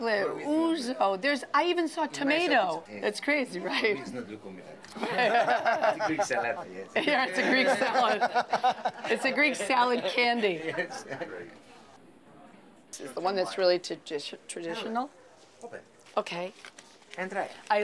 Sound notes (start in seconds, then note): 4.0 speaking Greek; 4.9 laughter; 7.4 laughter continues